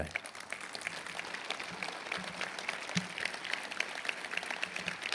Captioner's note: applause